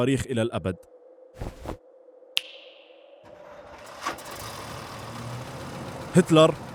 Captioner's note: snap